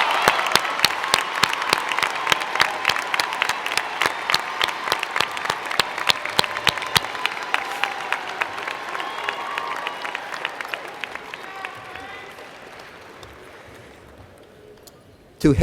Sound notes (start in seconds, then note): 1.5 cheers and Applause